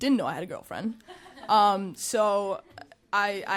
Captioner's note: audience chuckling